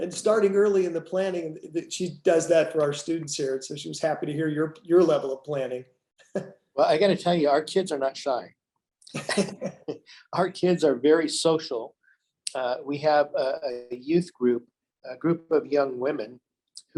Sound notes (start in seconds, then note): 9.1 laughs